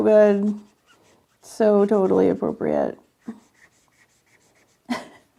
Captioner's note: laughs